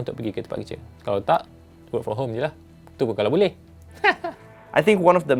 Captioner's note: nervous chuckle